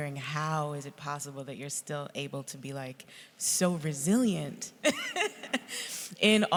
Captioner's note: laughs